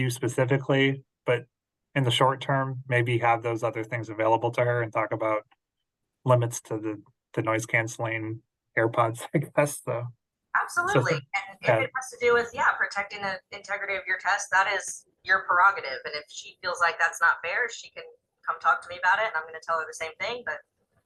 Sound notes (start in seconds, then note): 10.8 laughs